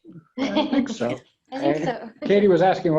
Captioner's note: laughs